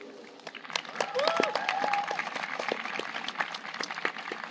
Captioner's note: audience applauding